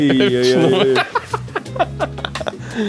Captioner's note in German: lacht